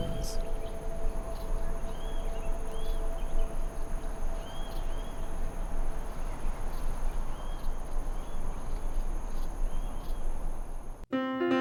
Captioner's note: windmill whirr